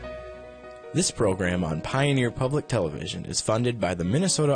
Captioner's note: voiceover